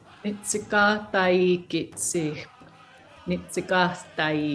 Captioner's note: speaking Blackfoot